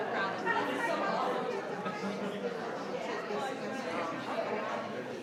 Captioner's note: people chattering